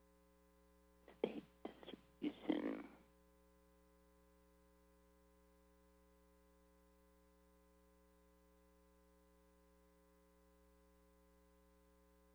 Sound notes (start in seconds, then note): 0.7 silence